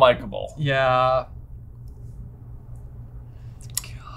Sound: whispers

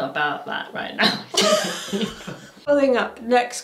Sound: both laughing

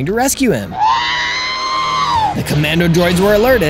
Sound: R2-D2 excited noises

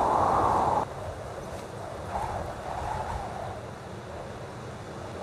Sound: wind whistling

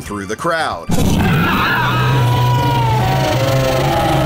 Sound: dragon growl

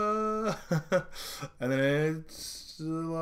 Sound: laughing

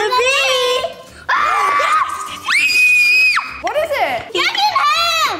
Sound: girls screaming

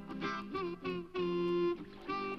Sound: water splashes

